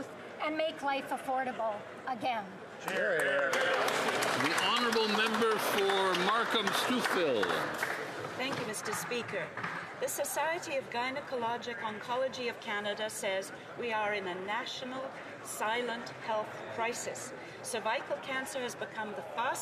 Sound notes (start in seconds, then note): 7.8 some Applause